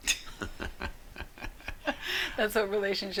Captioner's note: couple laughs